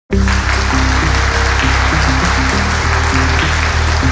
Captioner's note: audience loudly clapping